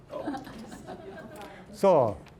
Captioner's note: scattered chuckling